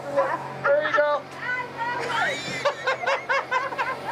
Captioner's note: laughing